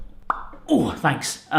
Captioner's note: popping sound